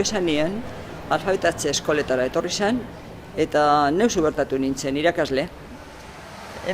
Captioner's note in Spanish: en euskara